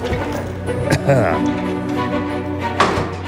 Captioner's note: whimsical music playing; coughs